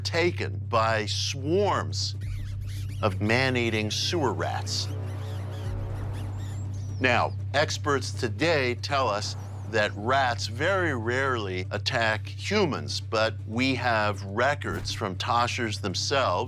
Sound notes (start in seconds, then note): 4.3 rats squeaking; 4.4 ominous music